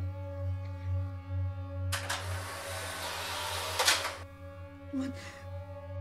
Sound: camera shutter

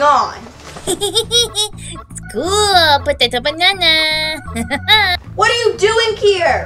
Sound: minion speaking gibberish

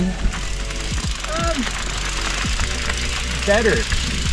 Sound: gravel crunches softly

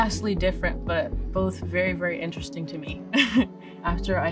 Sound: laughs

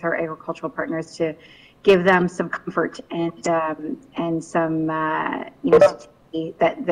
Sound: beep

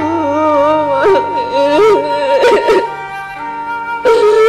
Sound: whimpering

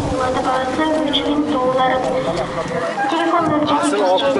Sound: loudspeaker voice

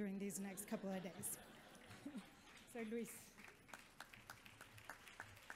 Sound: audience chuckles

